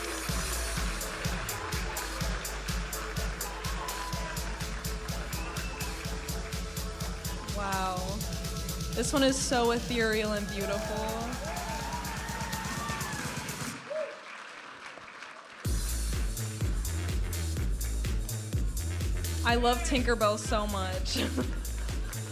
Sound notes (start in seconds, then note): 0.1 vibrant music; 11.6 audience applauding and cheering; 15.6 vibrant music